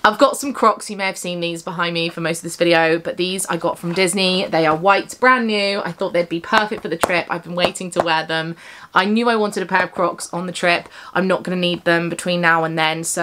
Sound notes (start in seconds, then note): none